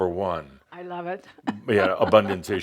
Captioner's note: she chuckles